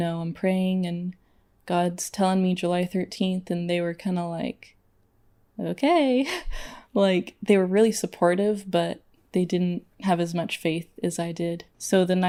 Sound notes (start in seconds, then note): 6.3 laughs